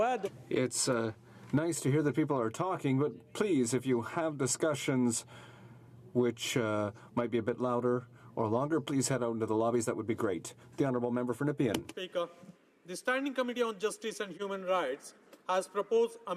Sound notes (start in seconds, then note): 6.3 speaking french